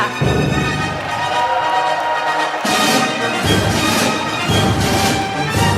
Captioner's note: applause